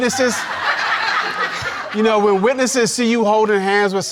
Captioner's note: audience laughing